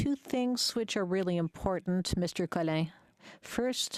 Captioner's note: speaking French